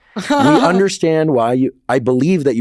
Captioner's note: Becky laughs